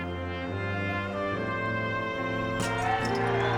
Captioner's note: cheers and applause